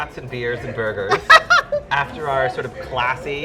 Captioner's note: laughing